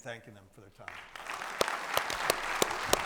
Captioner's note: audience applauding